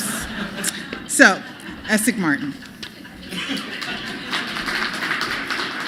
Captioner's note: laughter